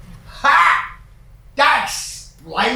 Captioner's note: cockney accent